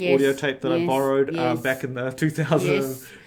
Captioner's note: laughs